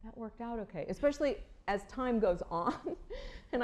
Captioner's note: laughter